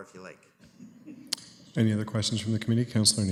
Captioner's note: laughter